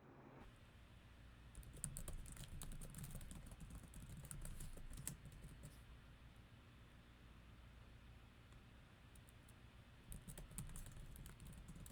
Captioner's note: keyboard typing